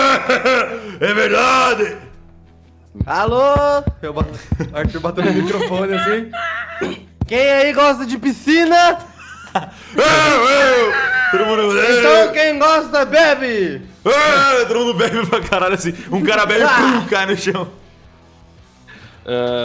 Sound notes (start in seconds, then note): 0.0 very loud laughs; 9.6 laughs